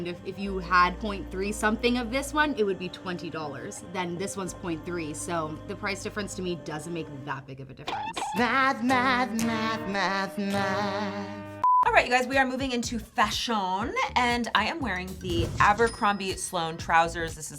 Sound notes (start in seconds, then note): 11.6 beeping